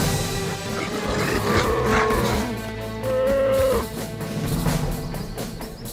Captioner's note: bears and wolves growl